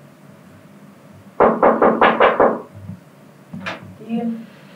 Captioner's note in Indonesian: ketokan pintu